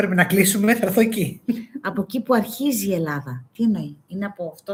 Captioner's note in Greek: γέλια